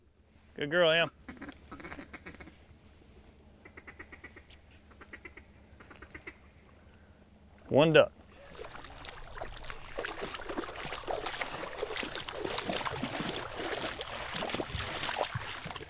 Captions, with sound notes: Good girl, Em. (ducks quacking) One duck. (water sloshing)